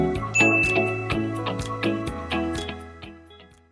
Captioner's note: bell dinging